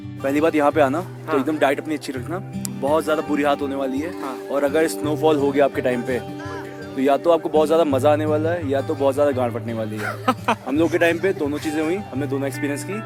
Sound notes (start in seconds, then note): 10.0 laugh